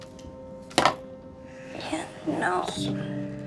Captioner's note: headphones clack